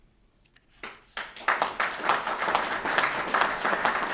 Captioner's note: applause